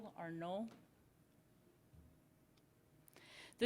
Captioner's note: silence